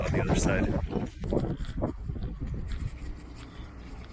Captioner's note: wind blowing